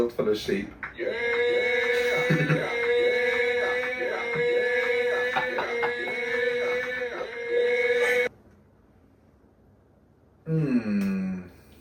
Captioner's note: yeah sound effect repeated